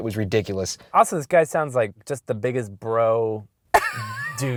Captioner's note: voiceover